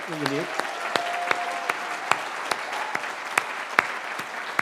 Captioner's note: cheering